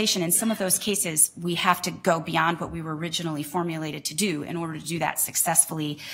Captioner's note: none